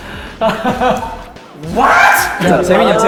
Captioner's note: trying to calm his surprised heart by shouting